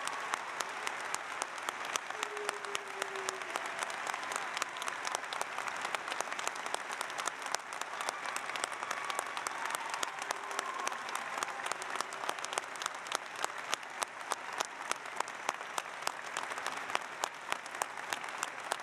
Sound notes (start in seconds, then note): 6.6 applause